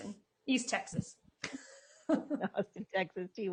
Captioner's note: chuckles